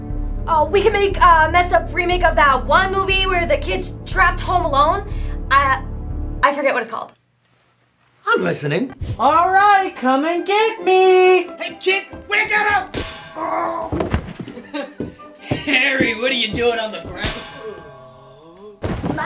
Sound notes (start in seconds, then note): 12.9 bang!; 13.4 crook groans; 14.4 goofy chuckle; 17.4 groans